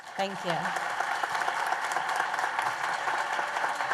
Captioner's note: applause